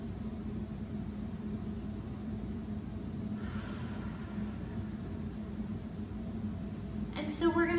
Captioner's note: breathing